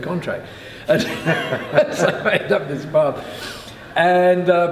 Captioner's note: laughing